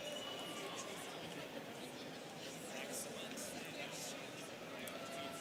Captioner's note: students chattering